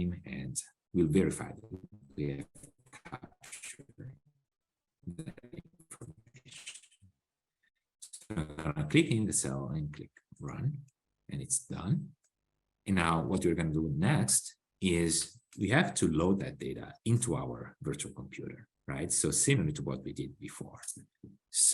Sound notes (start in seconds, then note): 8.1 audio skips